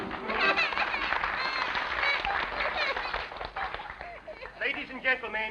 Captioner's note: applauding; child crying